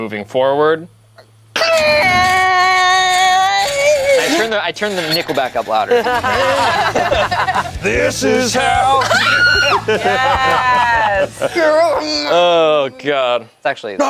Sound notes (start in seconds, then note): 1.5 screeching; 4.8 group laughs